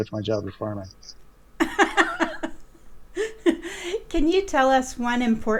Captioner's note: laughing